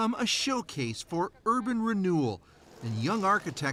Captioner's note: speaking russian